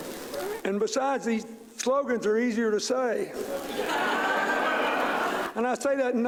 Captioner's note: laughter